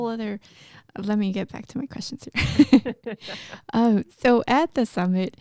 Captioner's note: chuckles